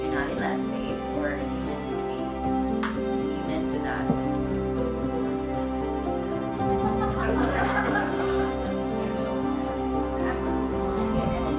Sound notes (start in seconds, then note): 6.5 crowd laughs; 8.0 gentle music continues